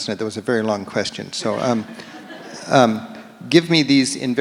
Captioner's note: audience laughs